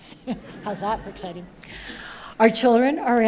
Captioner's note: audience laughing